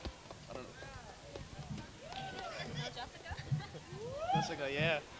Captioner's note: crowd cheering